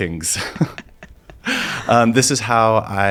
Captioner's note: both laugh